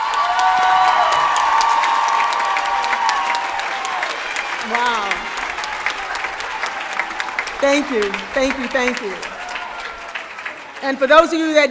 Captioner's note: applause